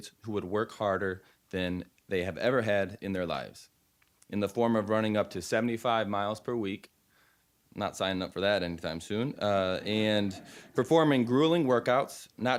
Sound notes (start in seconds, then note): 9.8 audience laughing